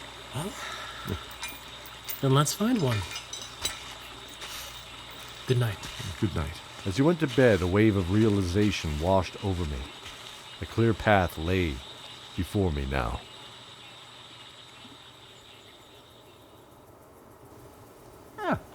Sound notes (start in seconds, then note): 0.0 chuckle